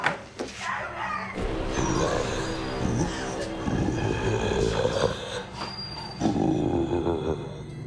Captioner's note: intense music; mummy snarling